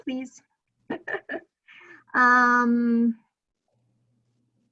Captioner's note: chuckling